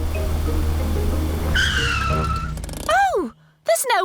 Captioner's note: tires screech